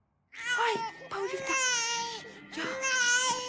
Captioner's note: baby crying